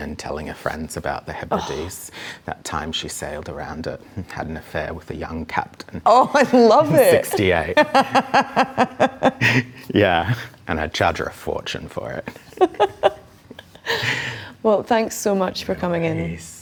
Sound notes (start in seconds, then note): 12.3 chuckles